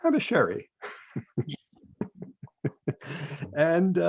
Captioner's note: laughs